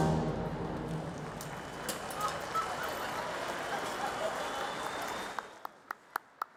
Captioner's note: audience cheers and applause